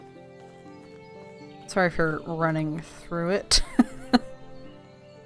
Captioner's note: laughs